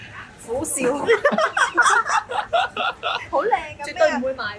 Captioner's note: haha